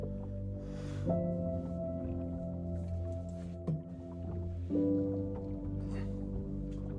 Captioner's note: Jacob sniffling